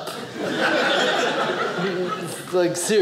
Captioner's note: audience laughing